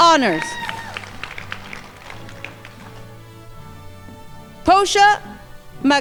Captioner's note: crowd applauding